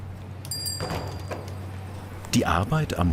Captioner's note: doorbell rings